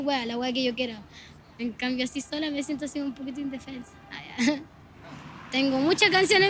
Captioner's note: laughs